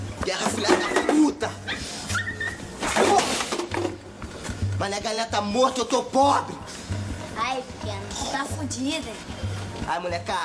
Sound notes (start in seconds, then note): 1.6 dog squealing